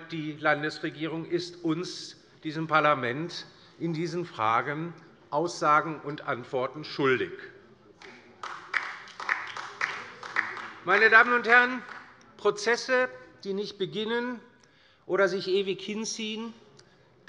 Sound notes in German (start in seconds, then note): 8.0 Beifall bei der LINKEN